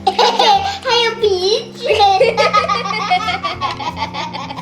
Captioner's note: inexplicable laugh